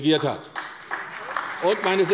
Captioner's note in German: Beifall bei der CDU